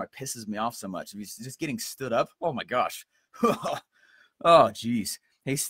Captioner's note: chuckles